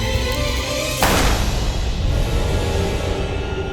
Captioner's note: gun firing; light haunting music